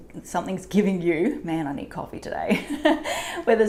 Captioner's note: chuckles